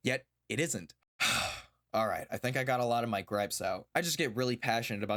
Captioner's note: sigh